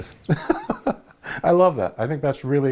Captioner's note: laughter